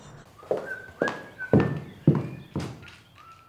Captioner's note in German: pfeift